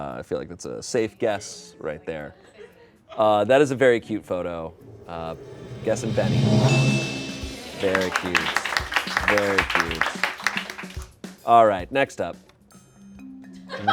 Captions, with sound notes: I feel like that's a safe guess right there. That is a very cute photo. Guessing Beni. (bell chimes) Very cute. (crew applauds) Very cute. All right, next up.